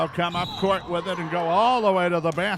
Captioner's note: referee whistling